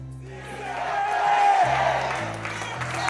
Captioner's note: crowd chants